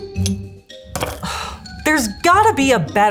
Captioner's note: fork clinks; playful music; fork thuds; sighs